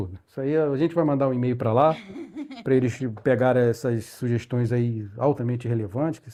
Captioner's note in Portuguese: risadas